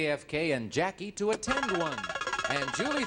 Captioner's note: buzzer beeps